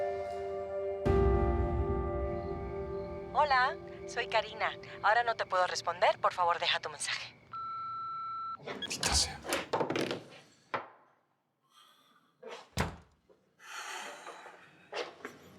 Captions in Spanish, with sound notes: [Voz en el buzón del celular] >>HOLA, SON KARINA, AHORA NO TE PUEDO RESPONDER. POR FAVOR DEJA TU MENSAJE. >>MALDITA SEA.